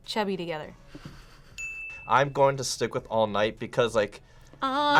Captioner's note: ding